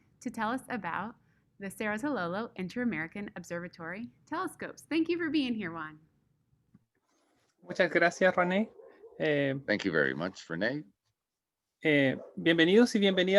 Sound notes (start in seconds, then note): 7.7 speaking in Spanish